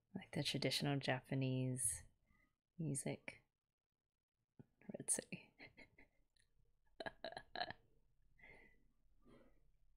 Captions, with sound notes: Like the traditional Japanese music. Ritsu. [laughs]